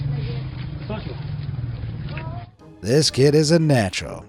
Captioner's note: soldier speaks in foreign language